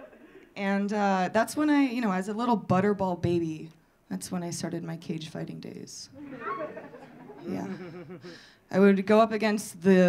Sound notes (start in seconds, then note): 6.2 audience laughing